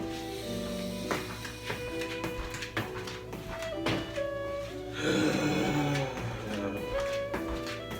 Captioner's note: siiggghhhh